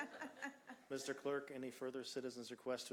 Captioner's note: laughter